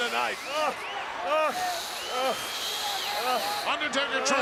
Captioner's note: Hogan whimpers; Undertaker hissing